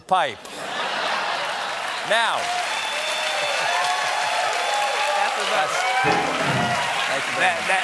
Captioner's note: applause; laughter; cheers and applause